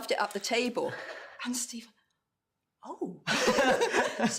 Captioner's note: laughter